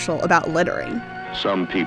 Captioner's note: soundbite of archived recording